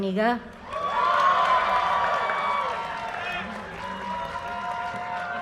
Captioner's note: audience cheers and applause